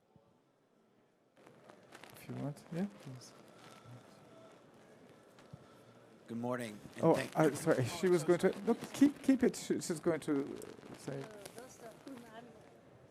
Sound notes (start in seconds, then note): 2.3 speaking in foreign language